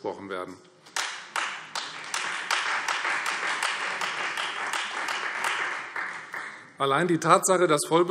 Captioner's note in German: Beifall